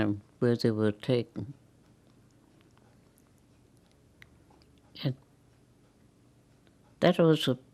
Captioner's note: pauses 6 seconds